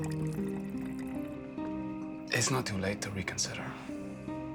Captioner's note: pouring